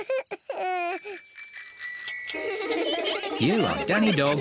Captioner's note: bells ringing; laughing